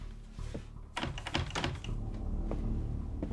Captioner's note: door rattling